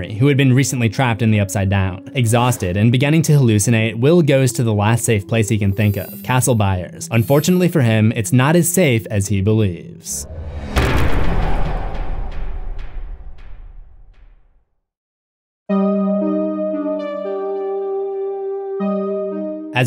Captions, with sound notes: recently been trapped in the Upside-Down. Exhausted and beginning to hallucinate, Will goes to the last safe place he can think of: Castle Byers. Unfortunately for him, it’s not as safe as he believes. (impact) (synth music)